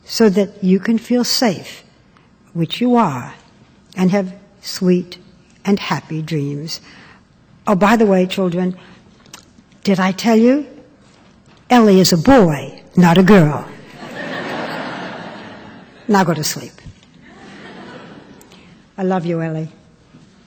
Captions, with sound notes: so that you can feel safe, which you are, and have sweet and happy dreams. Oh, by the way, children, did I tell you -- Elie is a boy, not a girl. (laughter) Now, go to sleep. (laughter) I love you, Elie.